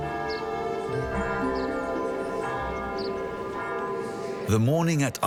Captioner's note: bell tolling